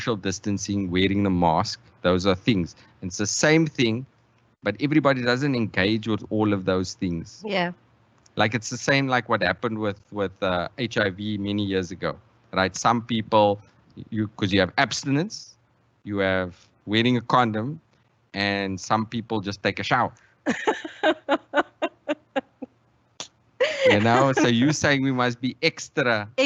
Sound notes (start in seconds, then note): 20.5 laughs